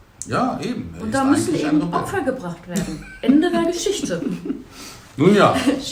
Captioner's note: laugh